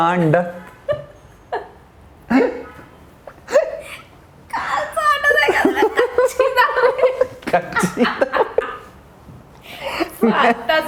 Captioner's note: laughing